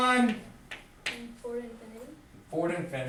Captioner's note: voiceover